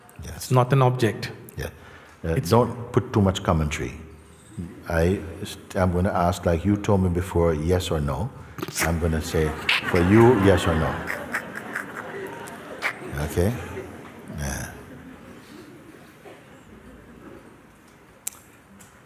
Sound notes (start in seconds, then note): 8.8 Lachen; 14.5 Lachen